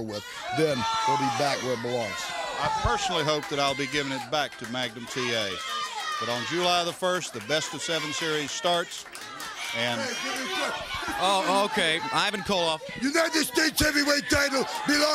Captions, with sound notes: FOR RIGHT NOW UNTIL AFTER BASH IS OVER WITH THEN IT WILL BE BACK WHERE IT BELONGS. >> [CROWD CHATTER] >> I PERSONALLY HOPE THAT I'LL BE GIVING IT BACK TO MAGNUM T.A. BUT ON JULY THE 1ST THE BEST OF SEVEN SERIES STARTS, AND... >> HEY, JIMMY CROCKETT. >> OH, OKAY, IVAN KOLOFF. >> UNITED STATES HEAVYWEIGHT